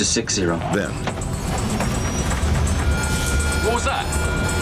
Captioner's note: alarm beeping